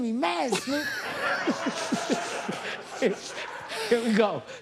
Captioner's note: laughter